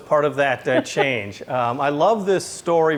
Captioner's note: laughs